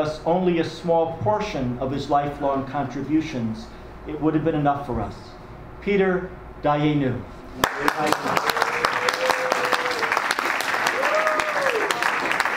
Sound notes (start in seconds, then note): 7.6 audience and panelists applaud